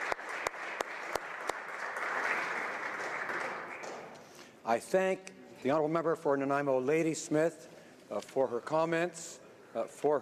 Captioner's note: applause